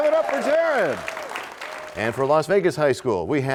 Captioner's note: cheers and applause